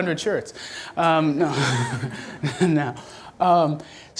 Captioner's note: laughs